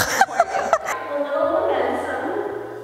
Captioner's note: laughing